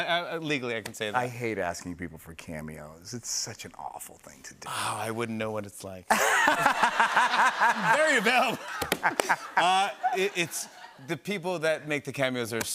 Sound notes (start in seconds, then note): 6.1 laughter